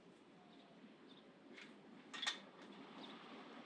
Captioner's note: birds chirping